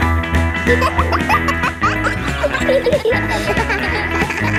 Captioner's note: kids laughing; pop music playing